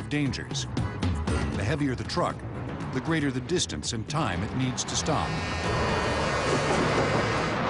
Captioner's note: horn blaring